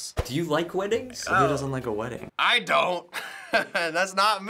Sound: chuckles

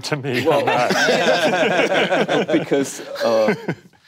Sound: panel laughing

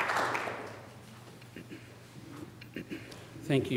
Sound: applause

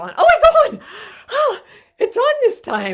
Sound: gasping

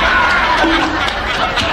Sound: laugh track

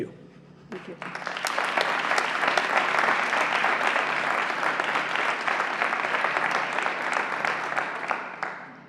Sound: applause

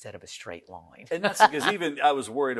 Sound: laughs loudly

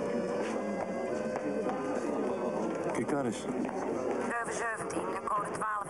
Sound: speaking foreign language

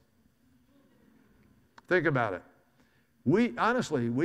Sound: audience laughs

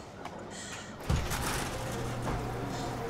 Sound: back garage door opens

